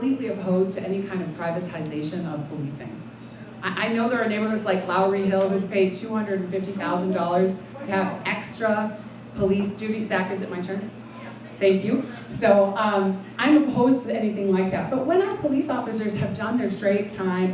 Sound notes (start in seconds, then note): 10.6 talking in background